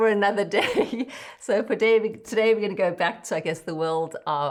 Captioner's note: laughs